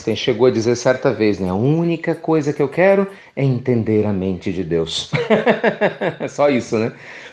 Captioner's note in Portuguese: Risos